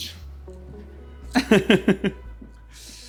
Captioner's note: laughter